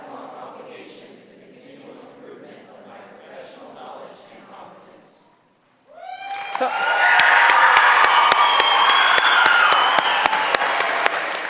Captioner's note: cheering